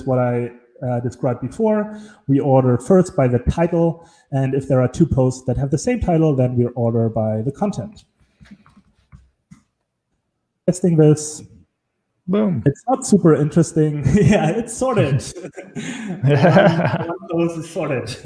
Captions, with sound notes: what I described before we order first by the title. And if there are two posts that have the same title, then we order by the content. Let's think of this. Boom, it's not super interesting. It's sorted. (laughs)